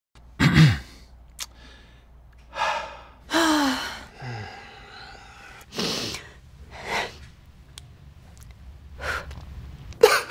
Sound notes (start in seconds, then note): 0.4 clears throat; 2.5 sighs; 3.2 both sighing; 5.8 sniffles; 9.0 deeply exhales; 10.1 sobbing quietly